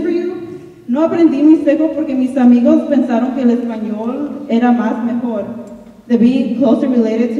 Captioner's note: speaking in Spanish